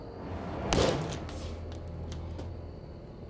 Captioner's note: smashes watch